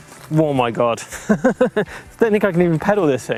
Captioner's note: laughing